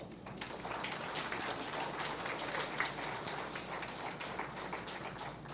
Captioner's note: applause